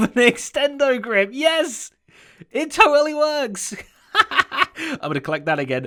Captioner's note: laughing